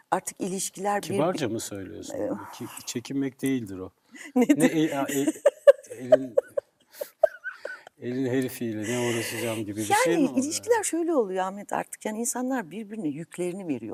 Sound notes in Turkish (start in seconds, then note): 4.3 kahkaha